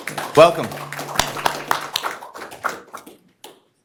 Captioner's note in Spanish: Aplausos